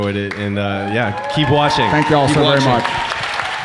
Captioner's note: audience cheering